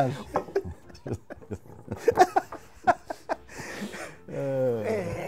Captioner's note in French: rire